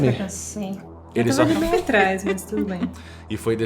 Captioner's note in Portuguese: risadinhas